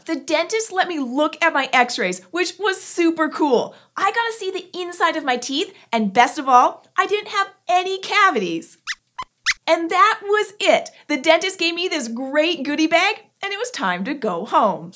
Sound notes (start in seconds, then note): 8.8 squeaks squeaks